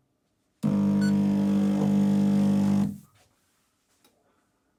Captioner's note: machine whirs